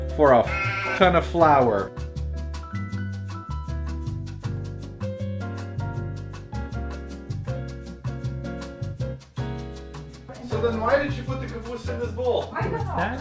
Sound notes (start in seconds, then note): 10.4 and Mom talking in the background